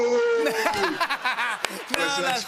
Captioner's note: laughter